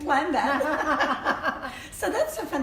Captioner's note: laughter